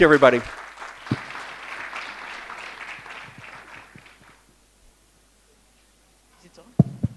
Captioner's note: applause